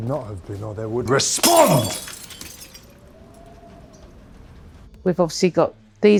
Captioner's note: glass shattering